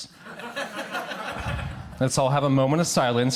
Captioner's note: crowd laughs